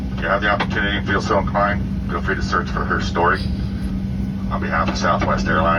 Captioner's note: none